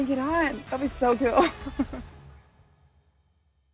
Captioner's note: laugh